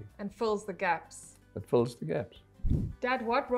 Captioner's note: air whooshing